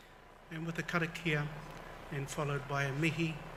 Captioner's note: foreign language